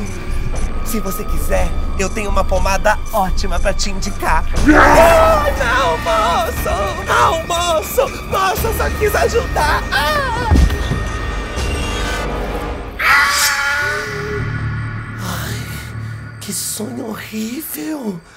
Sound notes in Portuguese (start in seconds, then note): 4.6 grunhidos; 10.8 música de tensão; 12.9 grito; 15.1 suspiro